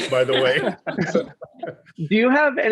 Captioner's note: laughs